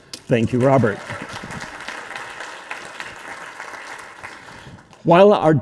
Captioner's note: audience applauding